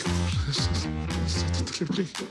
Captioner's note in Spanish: Habla entre dientes